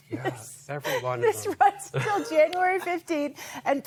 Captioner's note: laughter